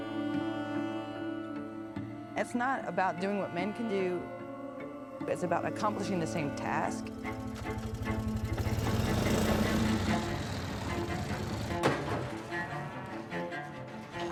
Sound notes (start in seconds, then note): 8.1 ATV engine rumbling; 11.4 gate slamming; 11.8 intense orchestral music